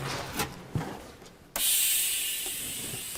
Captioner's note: hissing